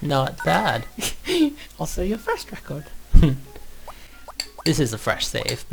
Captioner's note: laughs